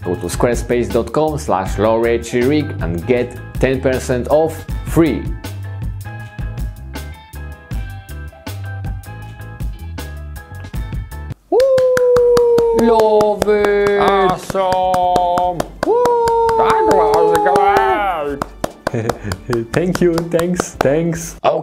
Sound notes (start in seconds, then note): 5.5 funky instrumental music; 11.6 creatures applauding